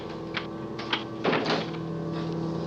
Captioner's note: lock clicks